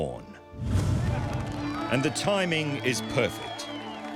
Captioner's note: crowd cheering